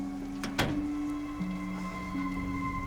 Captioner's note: door closes